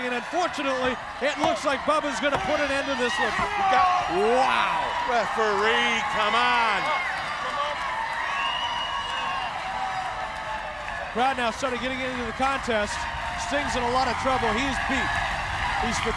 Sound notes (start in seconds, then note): 3.0 Bubba yells; 7.7 crowd vocalizing